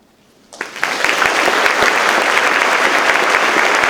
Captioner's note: audience claps